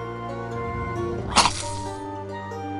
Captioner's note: the plant growls and bites